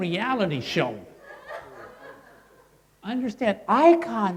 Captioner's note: crowd laughing